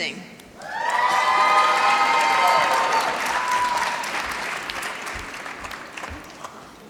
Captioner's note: applause